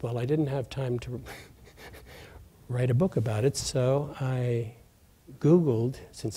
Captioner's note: laughs